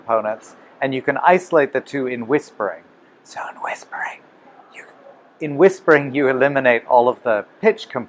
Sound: sound whispering

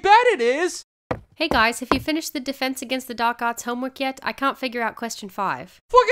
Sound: footsteps

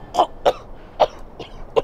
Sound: coughs

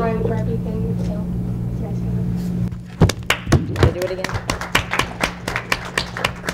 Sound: applause

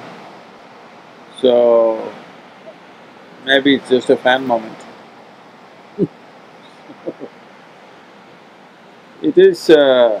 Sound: laughs

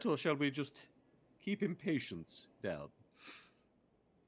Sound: none

